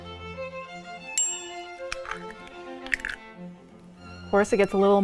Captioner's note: egg thudding; lively music; bell ding; egg shell rustles